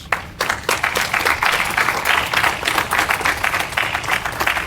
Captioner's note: audience applauding